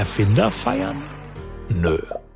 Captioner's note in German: Jubel